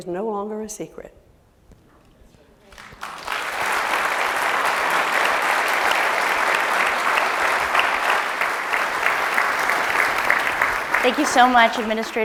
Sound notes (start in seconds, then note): 2.7 applause